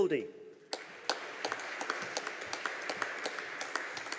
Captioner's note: audience applauding